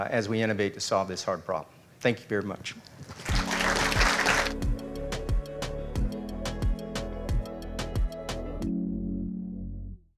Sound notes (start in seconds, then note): 3.2 audience applauding; 3.3 gentle rhythmic music returns; 8.7 gentle rhythmic music fading